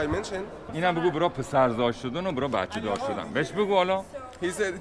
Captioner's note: talking in Farsi